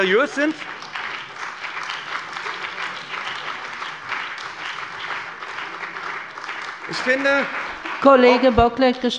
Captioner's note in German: Beifall bei dem BÜNDNIS 90/DIE GRÜNEN und de CDU